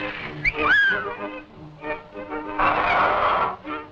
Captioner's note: Mickey whistles